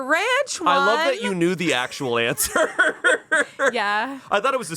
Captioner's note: laughs